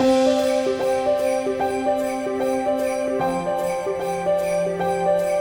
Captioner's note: happy music; sleigh bells shaking